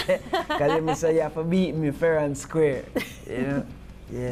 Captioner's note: laughing